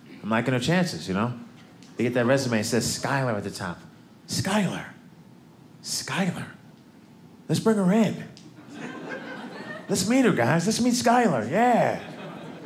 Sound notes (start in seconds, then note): 8.6 audience laughing